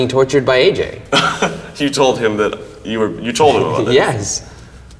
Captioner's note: laughs